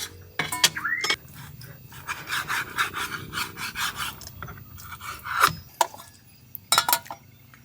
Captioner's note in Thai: เสียงหัวเราะ